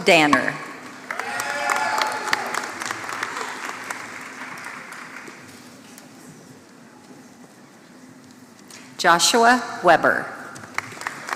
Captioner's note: applause